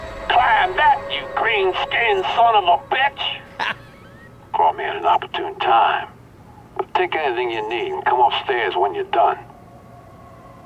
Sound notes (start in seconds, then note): 3.0 laughs